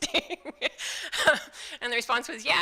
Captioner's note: laughing